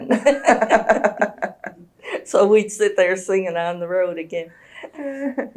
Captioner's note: laughter